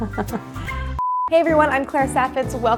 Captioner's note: laughs; beeps